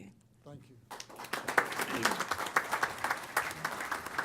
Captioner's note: applause